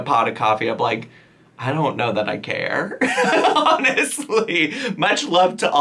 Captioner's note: laughing